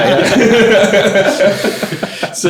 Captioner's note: all laughing